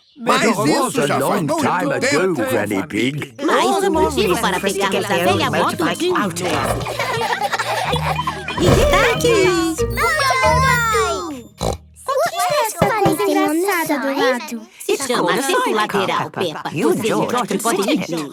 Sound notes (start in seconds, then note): 11.6 snort